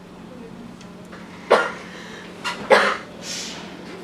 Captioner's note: coughs